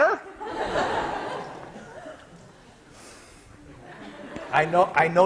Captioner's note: class laughs